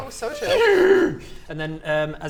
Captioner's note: miffed mammoth noises